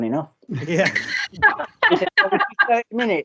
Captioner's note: all Laugh